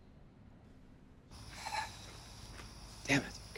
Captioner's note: Hugo sighs